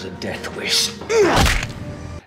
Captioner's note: grunt snap